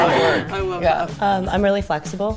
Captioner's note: laughing